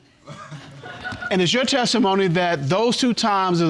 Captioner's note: audience laughing